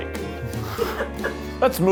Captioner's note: laughing